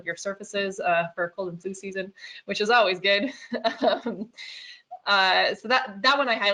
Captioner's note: chuckles